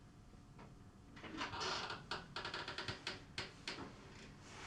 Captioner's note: door creaking